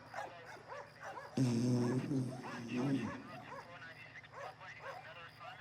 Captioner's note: dogs barking; snoring